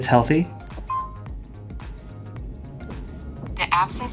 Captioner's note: pin beeping